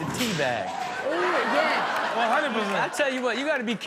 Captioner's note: audience laughs